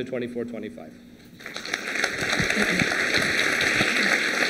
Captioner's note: applause